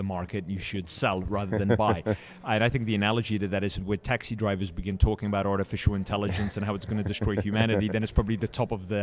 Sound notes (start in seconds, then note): 1.3 laughs